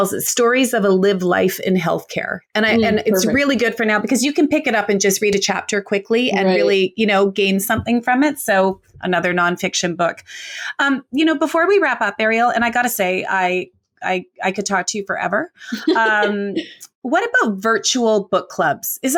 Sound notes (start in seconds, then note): 15.6 laughs